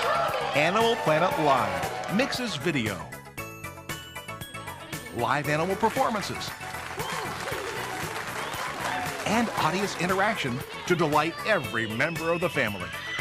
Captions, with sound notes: Animal Planet Live mixes video, live animal performances, (applause) and audience interaction, to delight every member of the family.